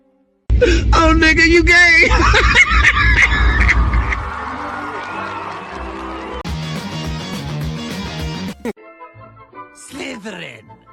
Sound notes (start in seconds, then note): 0.0 tension music; 3.9 cheering crowd